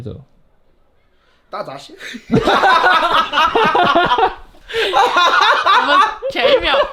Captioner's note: laughing